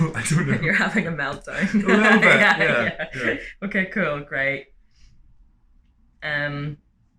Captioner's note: laughter